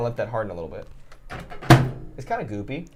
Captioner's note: closes microwave